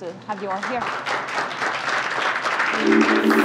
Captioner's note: applause